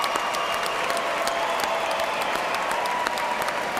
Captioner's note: cheers and applause